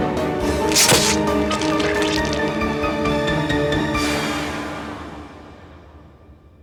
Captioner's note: sword slashing; dramatic music; dramatic music continues; sword squelches